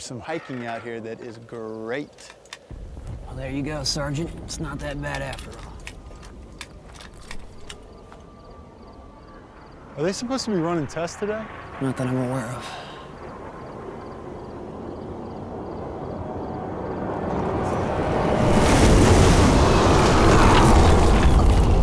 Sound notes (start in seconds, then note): 17.4 whoosh